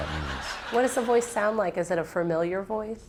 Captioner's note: laughter